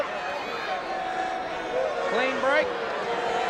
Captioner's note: crowd cheering